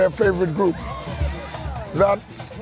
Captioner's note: crowd cheers